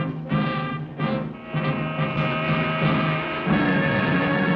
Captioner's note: car horn honking; tense menacing music